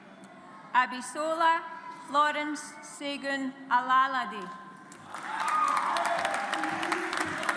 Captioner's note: audience applauds